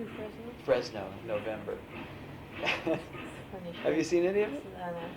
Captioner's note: laughs